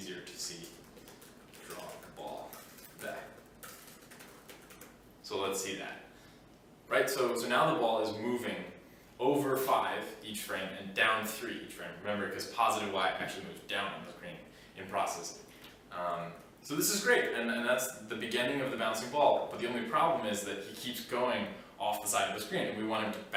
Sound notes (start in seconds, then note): 0.5 typing